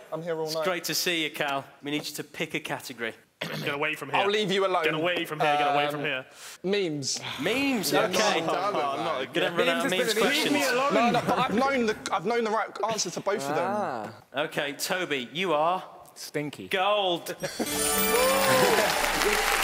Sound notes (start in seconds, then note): 8.4 chattering; 17.7 applauding